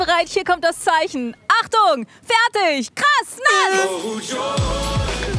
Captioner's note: Startsignal